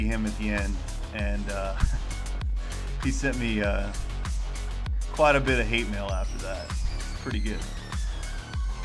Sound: reflective laughter

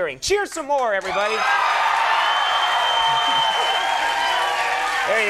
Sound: crowd cheering

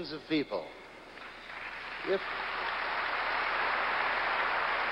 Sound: audience applauds

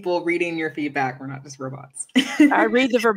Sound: laughter

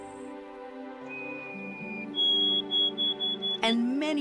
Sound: bird singing

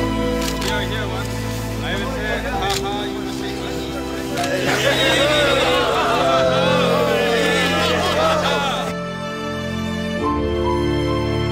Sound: laughter

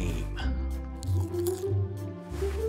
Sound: munches popcorn

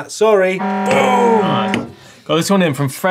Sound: buzzer

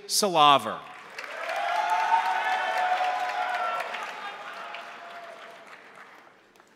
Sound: crowd applauding; crowd cheering

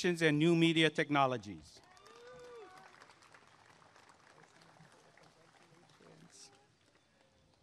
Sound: applause and cheering

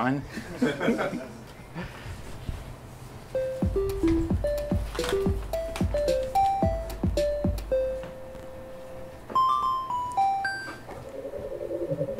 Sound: laugher

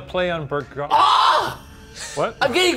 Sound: screams

